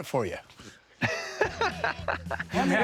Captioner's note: laughs